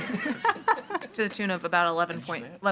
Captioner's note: people laughing